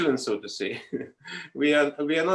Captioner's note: chuckles